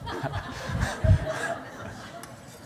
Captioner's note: laughter